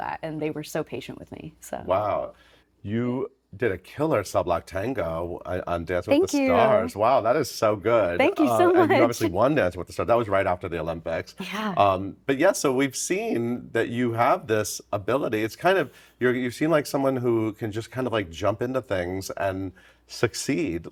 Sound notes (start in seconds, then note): 8.6 chuckling